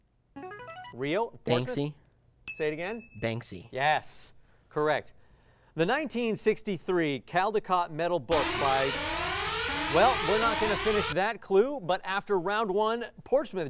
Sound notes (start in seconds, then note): 8.3 alarm sounding